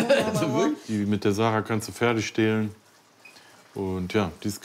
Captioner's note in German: lacht